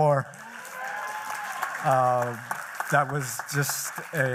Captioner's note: applause